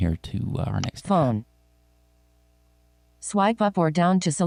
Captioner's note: automated Female Voice